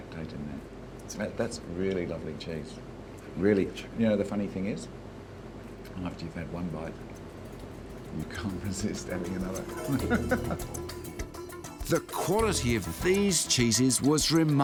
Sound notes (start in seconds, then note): 9.6 laughs